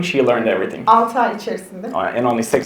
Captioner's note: speaks in Turkish